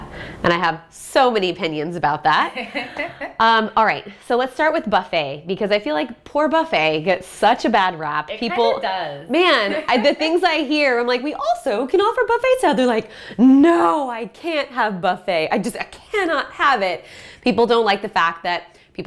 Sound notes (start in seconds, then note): 2.5 laughter